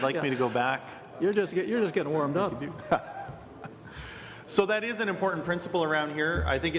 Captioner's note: laughter